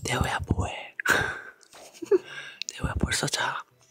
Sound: laughs

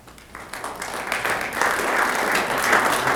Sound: applause

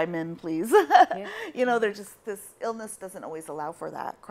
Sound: chuckles

